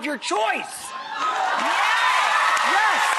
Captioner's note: cheering and clapping